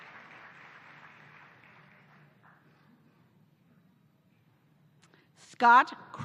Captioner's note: applause